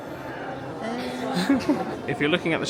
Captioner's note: chuckles